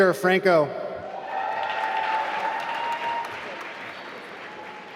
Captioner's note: applause